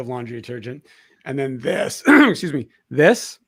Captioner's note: clears throat